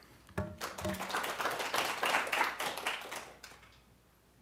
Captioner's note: applause